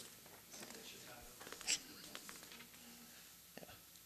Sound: murmurs

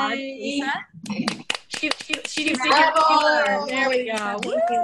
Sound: applause

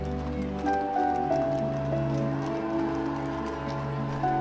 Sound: cameras clicking

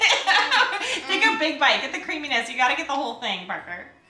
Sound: laughing

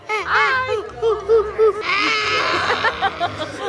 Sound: imitating a monkey; mom laughing

